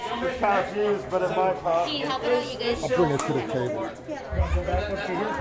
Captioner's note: crowd noise